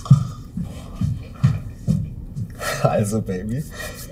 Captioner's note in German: Stampfende Schritte